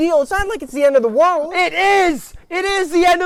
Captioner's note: shouting